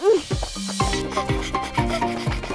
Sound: panting

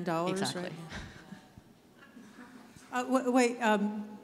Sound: audience laughs

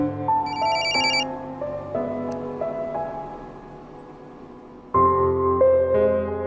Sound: phone rings

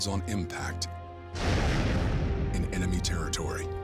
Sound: plane exploding

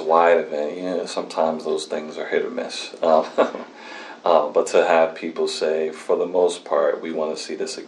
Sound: laughs

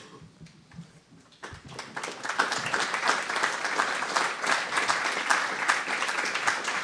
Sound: applause

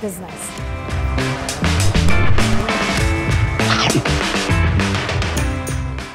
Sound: chomping; upbeat music

